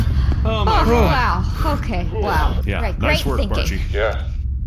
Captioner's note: exhausted; panting